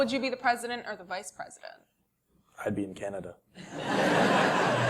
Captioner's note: laugh